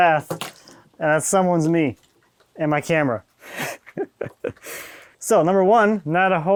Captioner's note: laughing